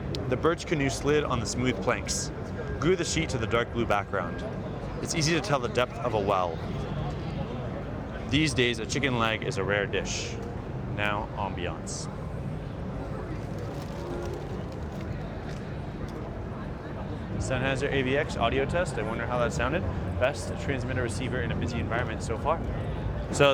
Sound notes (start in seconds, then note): 12.7 people chattering